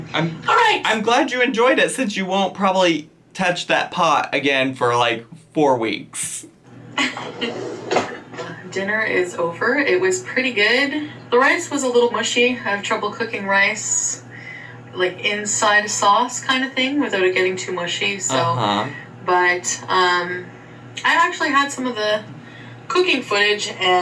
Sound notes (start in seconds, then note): 7.0 chuckles